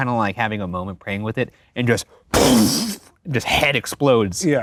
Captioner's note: imitates explosion